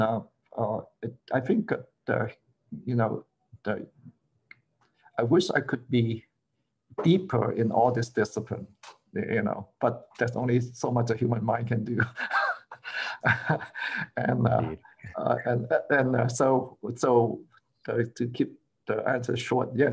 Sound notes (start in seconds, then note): 12.0 laughter